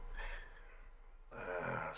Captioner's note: Sawyer sighs